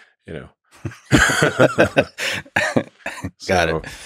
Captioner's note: both laughing